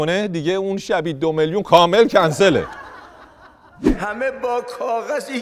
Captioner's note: laughter